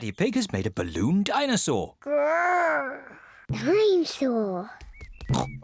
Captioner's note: growls; oinks